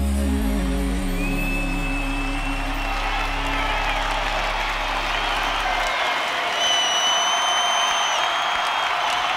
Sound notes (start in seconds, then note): 1.2 crowd cheers and applauds